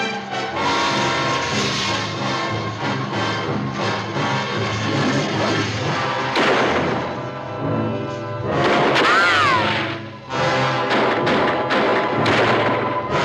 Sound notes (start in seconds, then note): 0.2 suspenseful music; 6.3 gun firing; 8.0 tense music; 10.7 guns firing